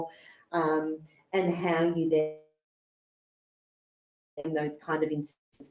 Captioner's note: audio distorts